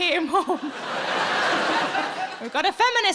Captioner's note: audience laughs